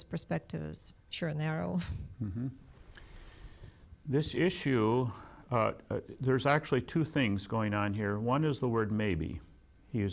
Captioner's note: laughs